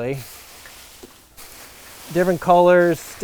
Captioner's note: bags rustling